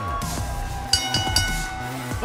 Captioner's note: bell ringing